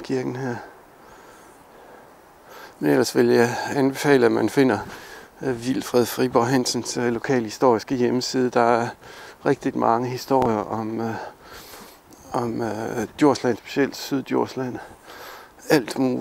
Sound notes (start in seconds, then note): 8.8 in Danish